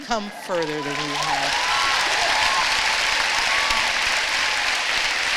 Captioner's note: applause